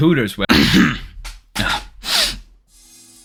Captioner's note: clearing throat